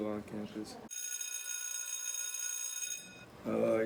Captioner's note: bell ringing